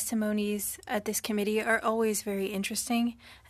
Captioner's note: speaking French